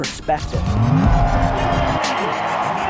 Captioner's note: upbeat techno music; engine revving; crowd cheering